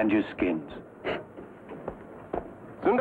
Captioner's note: Gregory scoffs